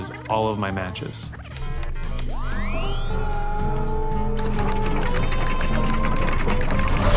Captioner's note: machines beeping, whirring; electricity crackling